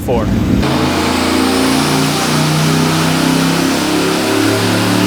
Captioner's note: engine revving loudly